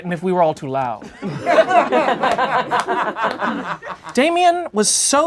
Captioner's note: laughing